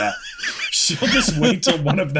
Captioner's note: laughter